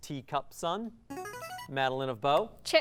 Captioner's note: ringing